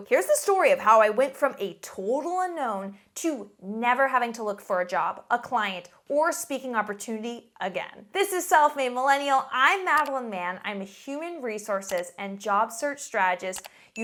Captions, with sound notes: Here's the story of how I went from a total unknown to never having to look for a job, a client or a speaking opportunity again. This is Self-Made Millennial. I'm Madeline Mann. (mouse clicks) I'm a human resources (mouse clicks) and job search strategist. (mouse clicks)